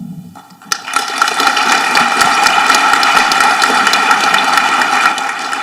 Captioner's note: audience applauding